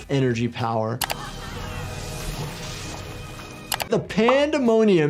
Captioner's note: electricity buzzing